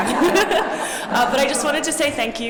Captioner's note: laughter